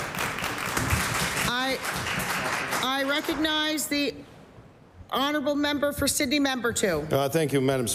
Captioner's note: applause